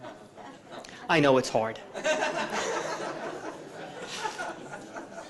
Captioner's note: audience laughing